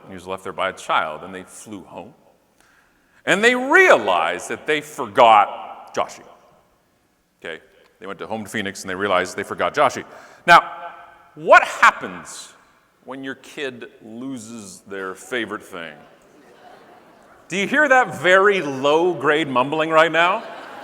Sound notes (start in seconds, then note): 15.6 audience mumbling